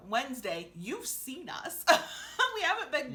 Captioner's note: laughing